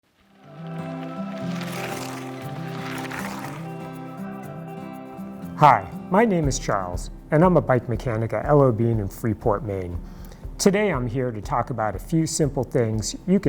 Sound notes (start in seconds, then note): 0.1 bikes zipping